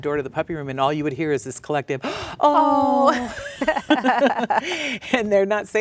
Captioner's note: laughs